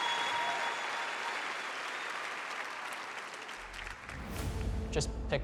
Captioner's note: cheering; applause